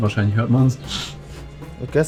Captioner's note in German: schnief